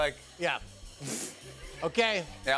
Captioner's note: laughs